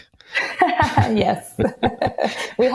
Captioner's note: laughs